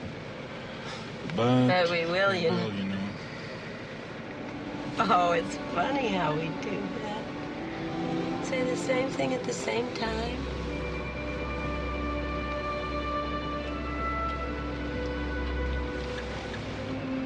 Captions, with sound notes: - (sighs) But- - But we will, you know. - We will, you know. - Oh, it's funny how we do that, saying the same thing at the same time. (gentle music)